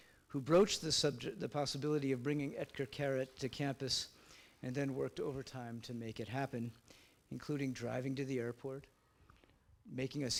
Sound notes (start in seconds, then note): none